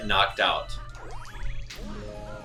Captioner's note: Launch Star warbles